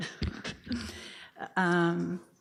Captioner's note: chuckles